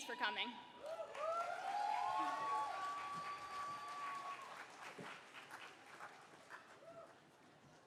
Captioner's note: cheers and applause